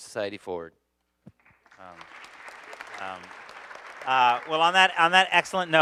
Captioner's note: audience applauding